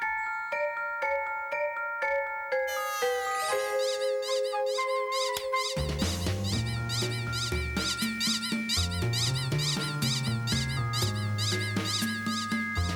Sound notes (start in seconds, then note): 3.1 squeak, squeak, squeak